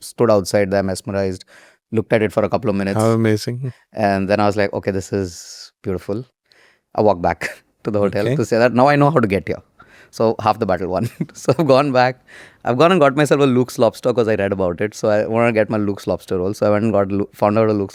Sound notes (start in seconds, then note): 8.1 chuckles; 11.1 chuckles